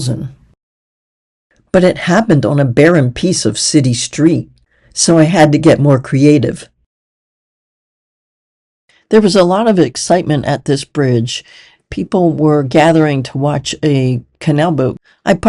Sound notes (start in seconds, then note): none